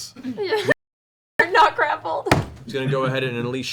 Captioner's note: laughing